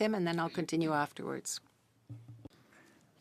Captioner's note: speaking French